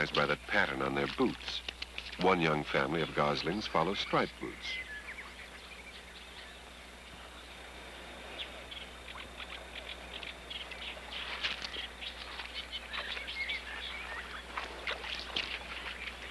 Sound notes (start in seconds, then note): 5.1 goslings Chirping, Water Sloshing